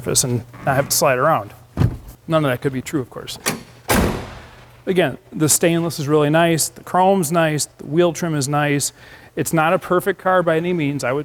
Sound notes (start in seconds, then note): 3.4 door banging shut